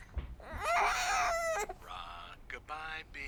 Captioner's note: baby crying